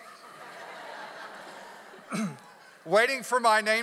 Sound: audience laughs

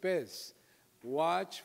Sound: foreign language

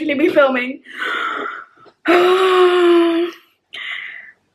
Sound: sighing

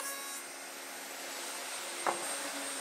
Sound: machine whirring ends

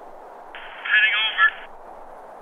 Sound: two-way radio

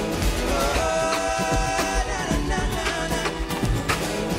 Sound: beatboxing

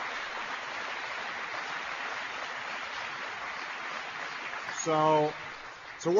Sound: applause

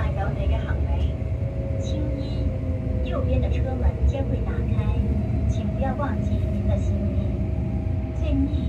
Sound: Cantonese; Mandarin

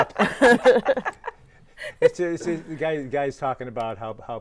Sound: all laughing

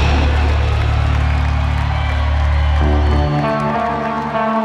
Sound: audience cheering

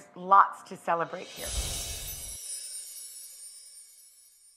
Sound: air whooshing

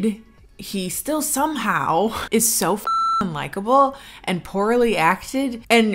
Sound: beep

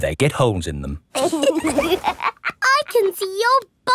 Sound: laughs

